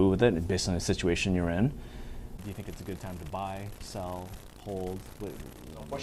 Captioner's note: buzzing sound